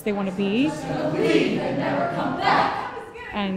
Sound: chanting

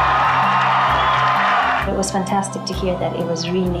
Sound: cheers and Applause

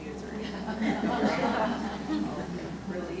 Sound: audience laughs

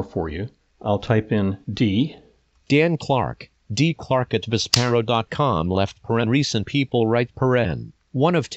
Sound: computer "click" sound

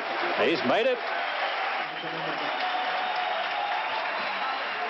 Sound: crowd applauding

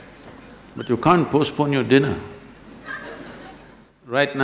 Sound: laughter

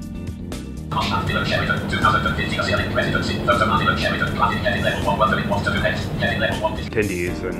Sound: screen reader software talking rapidly in the background

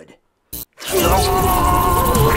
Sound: loud buzzing

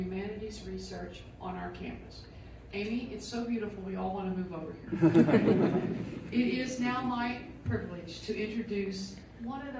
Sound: laughter

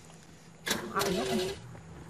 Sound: car engine screeching

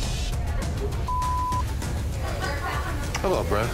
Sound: beep

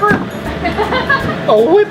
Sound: laughs

